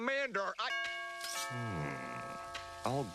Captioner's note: doorbell rings